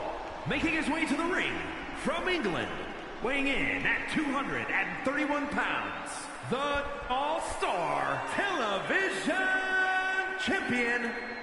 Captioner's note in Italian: Applauso